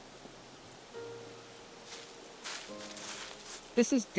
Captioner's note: footsteps rustling